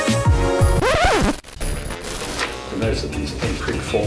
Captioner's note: record scratching